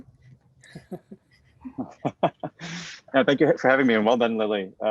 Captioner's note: laughs